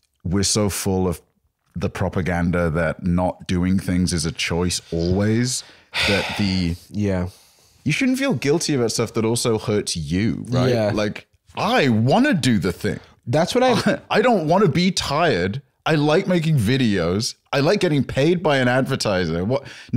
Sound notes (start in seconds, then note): 5.6 sighs